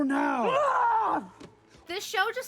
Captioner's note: pterodactyl screech